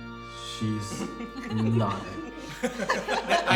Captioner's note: laughs